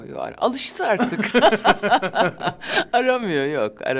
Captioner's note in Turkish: Gülüyorlar